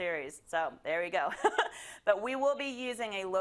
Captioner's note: laugh